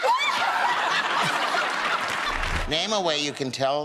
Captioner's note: laughter